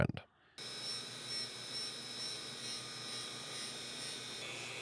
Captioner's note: machinery whirring